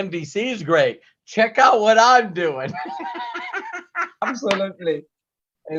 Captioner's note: laughs